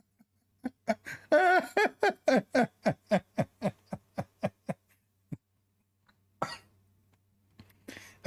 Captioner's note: Ketawa